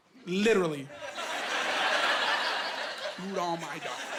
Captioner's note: laughing